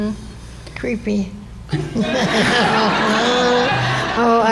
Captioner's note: laughter